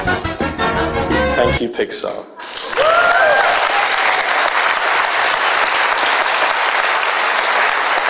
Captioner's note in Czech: potlesk